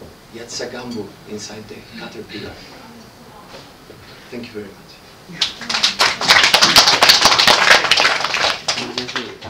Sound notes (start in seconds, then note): 6.9 clapping